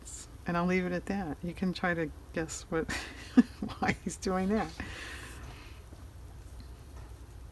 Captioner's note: laughs